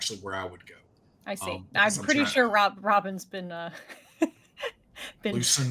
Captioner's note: chuckles